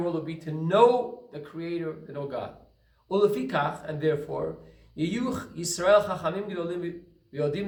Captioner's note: Hebrew